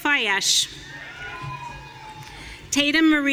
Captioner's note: audience cheering